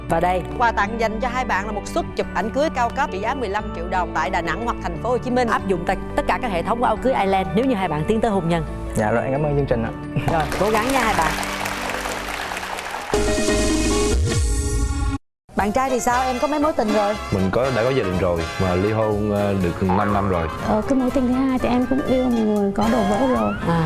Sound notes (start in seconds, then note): 10.2 applause